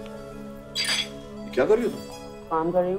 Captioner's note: Door closes; Spoon tinkling